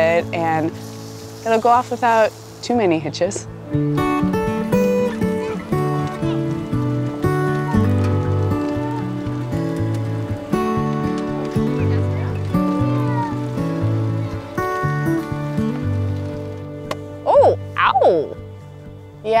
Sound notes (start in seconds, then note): 4.2 gentle music; 16.8 lantern thudding